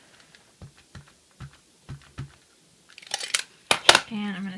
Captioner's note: patting and clicks